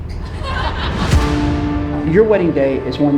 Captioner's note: crowd laughing